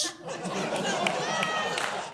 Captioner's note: laughing